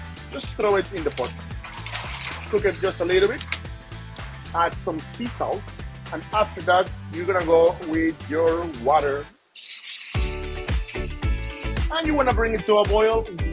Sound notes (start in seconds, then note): 0.2 pot sizzling; 9.4 pot sizzling; 9.9 uplifting music